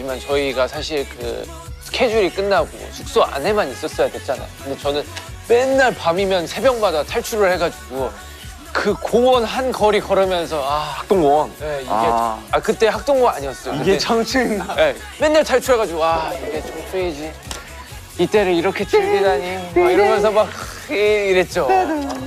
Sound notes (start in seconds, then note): 13.9 haha